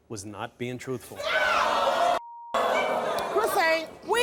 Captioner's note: audience groaning and shouting